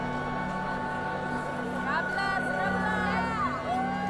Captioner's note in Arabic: هتاف